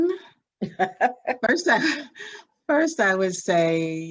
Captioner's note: laughs